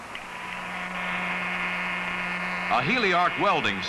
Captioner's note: machine whirs